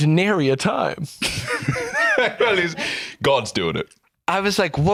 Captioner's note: laughs